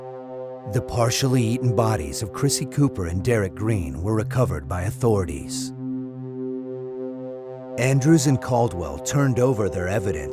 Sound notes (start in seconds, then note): none